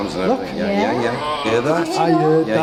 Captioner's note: groaning